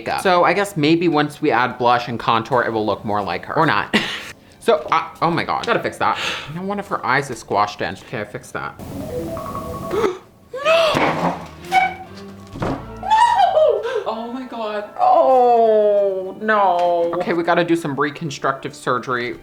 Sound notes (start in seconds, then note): 8.8 dramatic music; 9.9 gasps; 10.6 chair squeaks